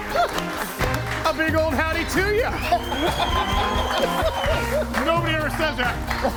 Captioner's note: group laughs